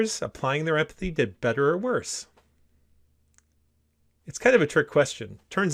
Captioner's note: pause